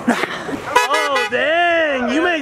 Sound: car honking

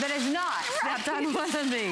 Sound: laughter

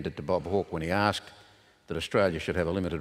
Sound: none

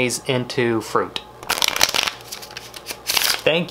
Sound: cards shuffling

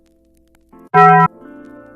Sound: dong

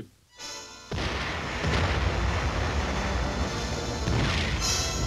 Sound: explosions booming

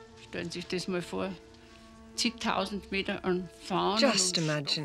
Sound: speaks foreign language

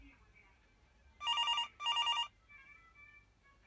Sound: ring ring

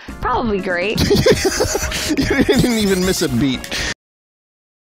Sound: laughing

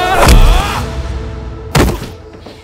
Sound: punches

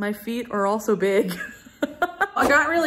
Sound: laughing

